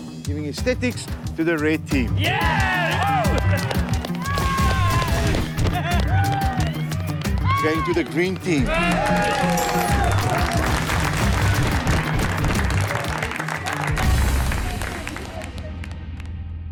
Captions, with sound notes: Giving aesthetics to the red team. (cheering) Going to the green team. (cheers)